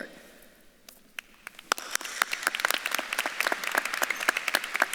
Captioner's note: audience clapping